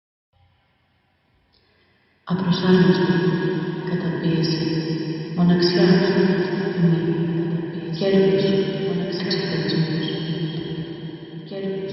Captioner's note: woman's voice speaking in Greek with the 'echo' distortion